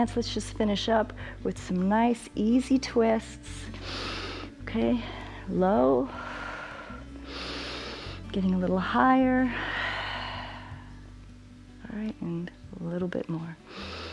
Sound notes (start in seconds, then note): 3.7 inhales; 6.1 exhales and inhales; 9.9 exhales